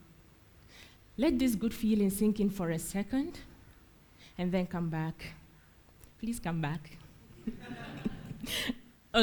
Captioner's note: laughs